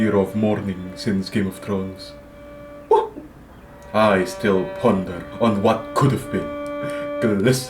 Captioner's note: trembling sigh